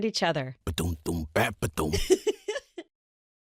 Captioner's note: happy giggle